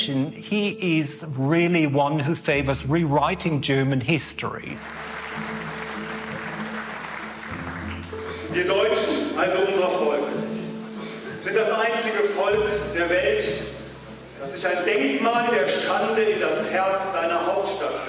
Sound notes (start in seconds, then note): 4.7 audience applauding; 7.9 speaking German